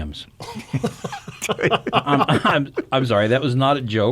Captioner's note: men chuckle